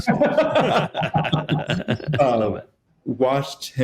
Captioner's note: both laughing